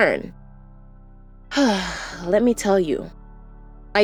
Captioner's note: sigh